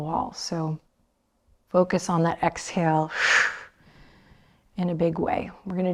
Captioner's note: exaggerated exhale